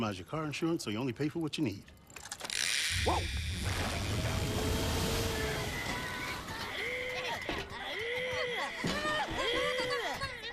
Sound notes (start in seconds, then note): 6.2 submarine rising out of water